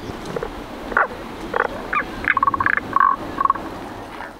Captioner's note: croaking sound